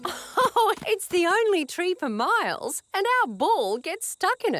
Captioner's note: laughs